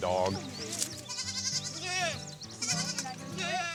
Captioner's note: goats bleating